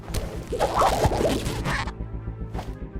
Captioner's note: rubbery squeaking